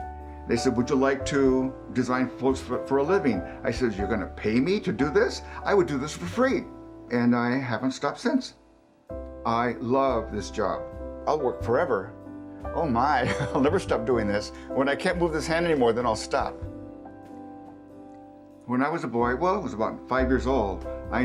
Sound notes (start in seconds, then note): 13.2 chuckles